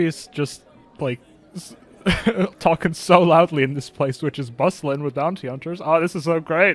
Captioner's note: laughing